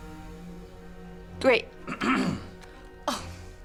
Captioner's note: clears throat